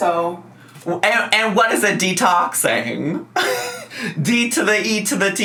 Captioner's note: laughs